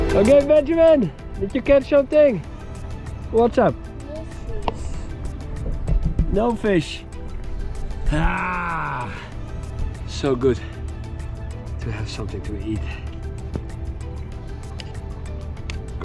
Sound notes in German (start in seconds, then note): 0.0 tropische Tanzmusik; 8.0 stöhnt